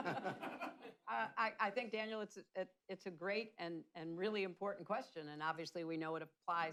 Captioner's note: laughter